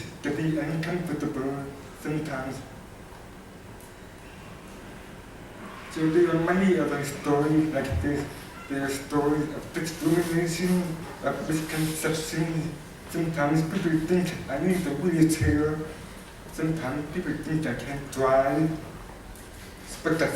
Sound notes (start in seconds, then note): none